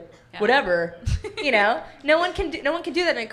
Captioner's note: laughs